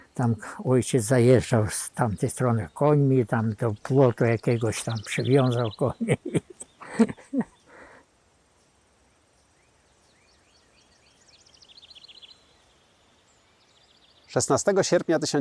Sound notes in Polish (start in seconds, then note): 5.7 śmiech; 9.9 śpiew ptaków